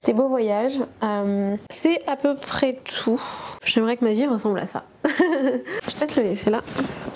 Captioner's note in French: rires